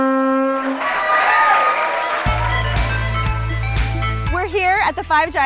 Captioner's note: cheering